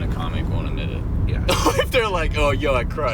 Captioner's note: laughs